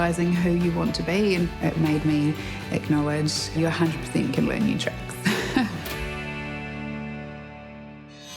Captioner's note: chuckles